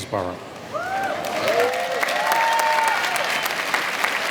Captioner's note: cheering